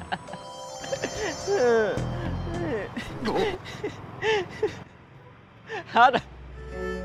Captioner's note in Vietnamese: Tiếng cười